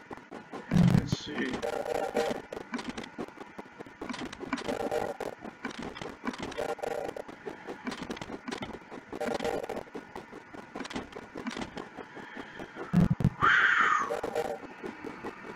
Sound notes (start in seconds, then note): 1.0 sound of locomotive; 2.4 clicks repeatedly; 3.6 sound of locomotive